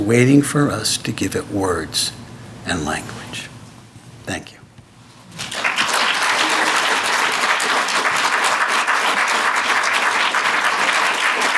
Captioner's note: applause